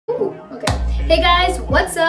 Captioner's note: clap